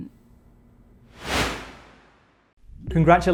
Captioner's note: swoosh